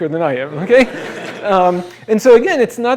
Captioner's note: laughter